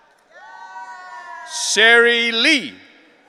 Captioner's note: audience cheering